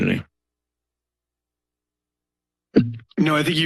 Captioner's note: silence